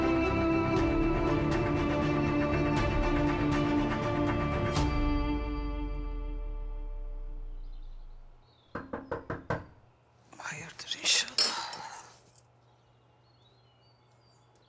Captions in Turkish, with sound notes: [Kapı çalar.] Hayırdır inşallah.